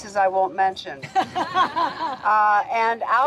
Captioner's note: laughing